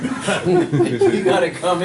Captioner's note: students chuckling